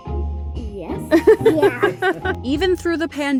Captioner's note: laughing